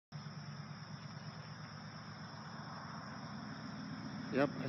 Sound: vehicles driving down the road

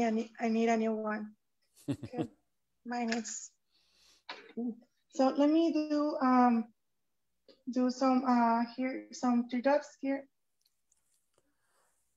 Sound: chuckles

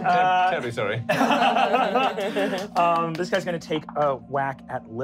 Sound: laughing

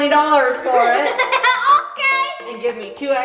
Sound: giggling

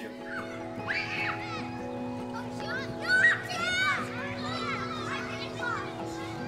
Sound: children playing

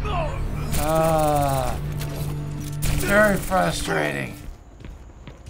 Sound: grumbling

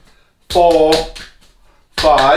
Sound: slapping

